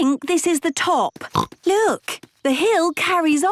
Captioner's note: snorts